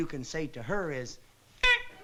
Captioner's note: honks